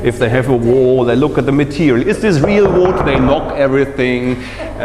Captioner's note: knocks on wall